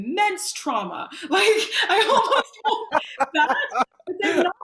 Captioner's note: laughing